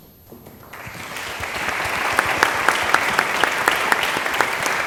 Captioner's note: applause